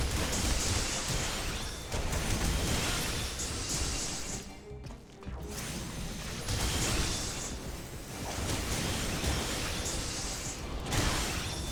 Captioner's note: gunshots